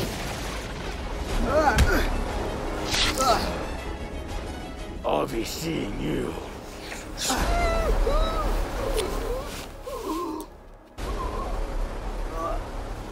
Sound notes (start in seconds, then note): 0.0 thunder Crash x3; 7.3 bondage Moaning in High Pitch/Gasping for Air